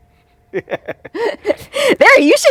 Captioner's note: laughing